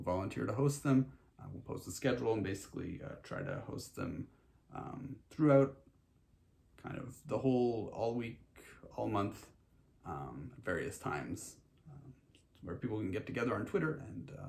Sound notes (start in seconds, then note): none